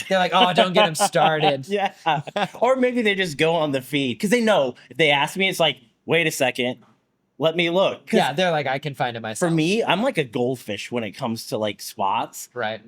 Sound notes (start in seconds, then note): 3.9 laughs